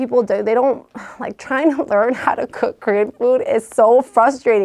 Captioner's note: laughs